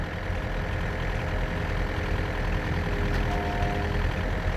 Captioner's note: machine noises